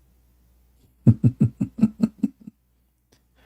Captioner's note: Ketawa